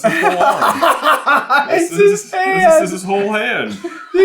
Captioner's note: laughter